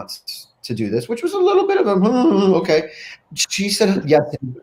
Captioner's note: voice quakes